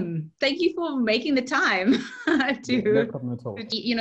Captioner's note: laughs